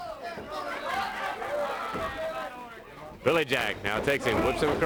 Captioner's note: crowd chatter